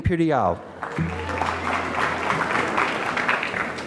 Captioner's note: applause